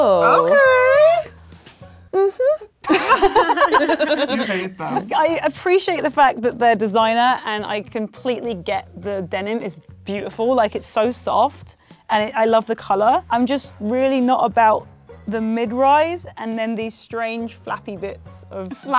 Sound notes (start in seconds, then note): 2.8 giggling